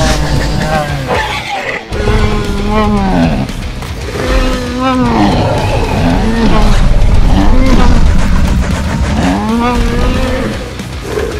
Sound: Bumpy growls

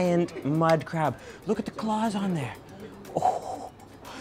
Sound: laughs

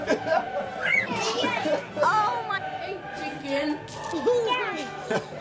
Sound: belching; screaming and laughing

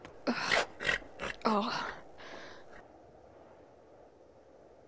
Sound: oliver groans

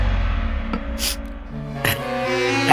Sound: sniffs

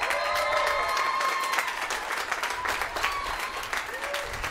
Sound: applause

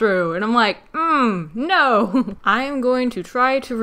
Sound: chuckles

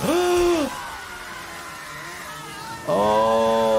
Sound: gasps

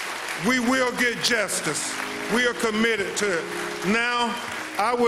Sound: applause

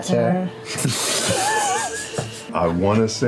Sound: laughing

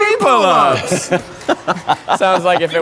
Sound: laughing

